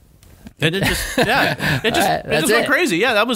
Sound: laughter

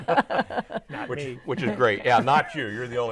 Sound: laughing

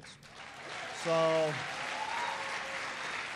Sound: applause

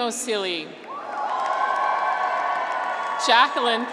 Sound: graduates cheer

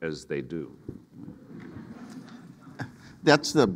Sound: audience laughing

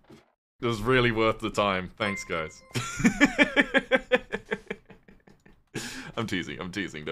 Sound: laughs

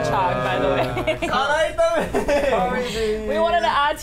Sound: laughs; speaks in Korean

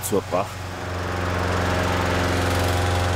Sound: droning, rattling

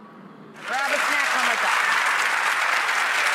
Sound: audience clapping

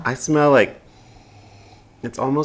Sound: sniff

